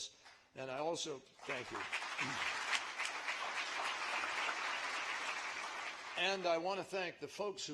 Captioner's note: applause